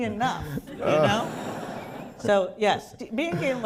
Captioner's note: laughter